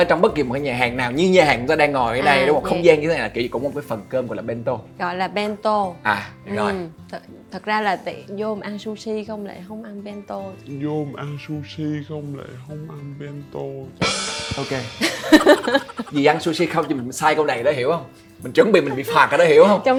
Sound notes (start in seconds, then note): 15.0 laugh